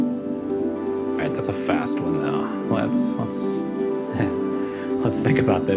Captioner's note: laughs